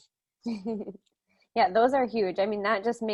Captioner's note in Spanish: Risas